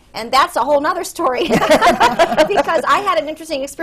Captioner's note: laughter